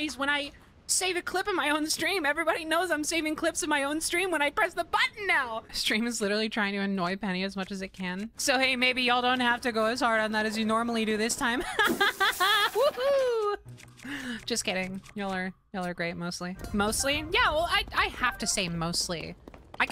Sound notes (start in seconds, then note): 11.6 cheeky Laughter